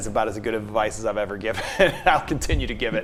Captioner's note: laughs